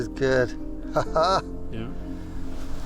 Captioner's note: chuckles